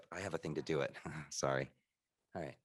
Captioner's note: chuckles